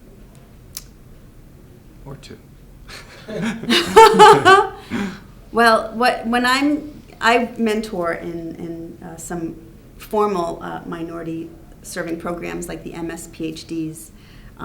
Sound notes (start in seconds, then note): 2.9 laughter